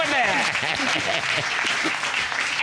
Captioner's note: laughing